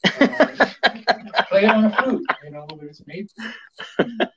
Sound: laughs

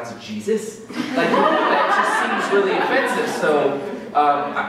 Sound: laughter

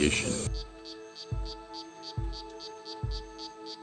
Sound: frog calling

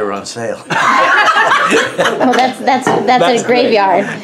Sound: laughs

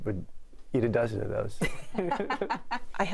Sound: laughter

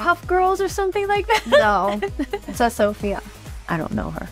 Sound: chuckling

